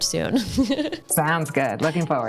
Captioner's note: laughter